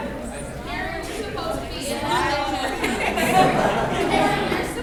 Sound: crowd talking

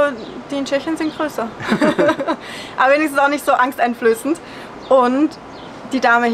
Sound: laughter

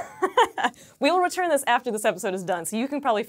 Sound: laughs

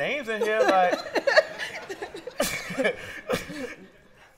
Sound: laughter

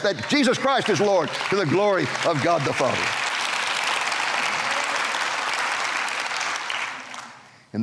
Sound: clapping

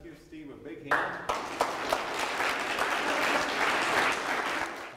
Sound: audience members applaud

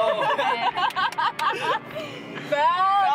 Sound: laughing; clapping

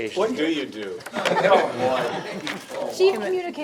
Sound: members laughing

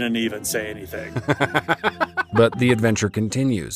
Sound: both laughing

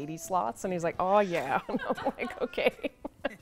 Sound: laughs

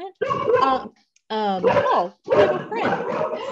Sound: background dogs barking, laughter

